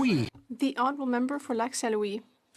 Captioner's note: speaking French